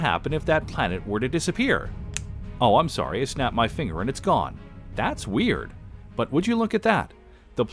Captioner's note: snap